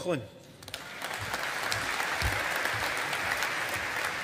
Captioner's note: audience applauding